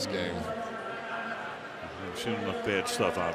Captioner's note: announcer on pa